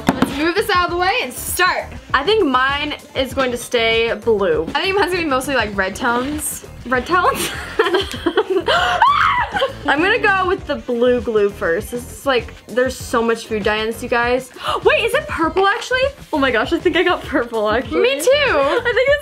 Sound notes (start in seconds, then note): 7.3 laughing; 8.8 screaming